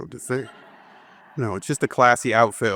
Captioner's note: audience laughing